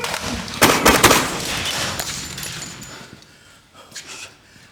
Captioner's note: gunshots popping